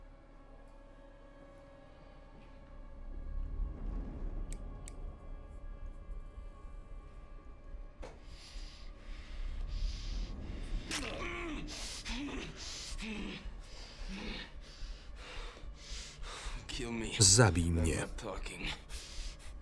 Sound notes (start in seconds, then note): 4.8 clicking; 10.9 crunching and grunting